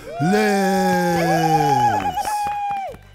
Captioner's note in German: Jubel, Klatschen